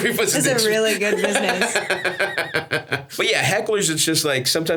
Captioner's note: Stavros laughs